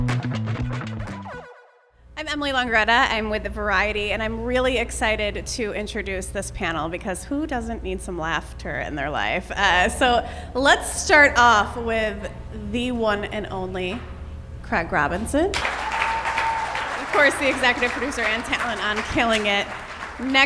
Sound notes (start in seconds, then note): 15.5 audience cheers and applause